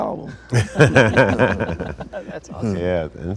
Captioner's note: everyone laughs